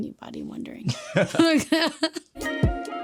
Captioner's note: both laughing; upbeat music